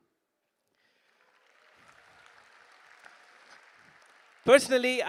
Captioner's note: applause